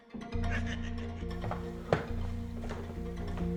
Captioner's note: leprechaun laughing; suspenseful tempo music